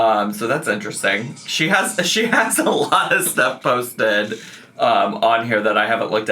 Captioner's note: laughing